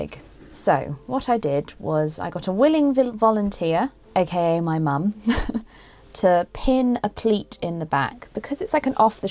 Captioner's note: chuckles